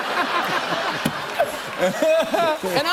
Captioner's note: laughter